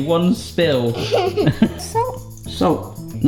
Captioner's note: laughs